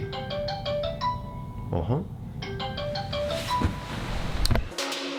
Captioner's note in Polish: Dźwięk telefonu